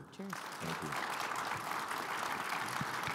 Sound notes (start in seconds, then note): 0.2 audience applauding